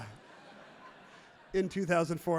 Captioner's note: crowd laughs happily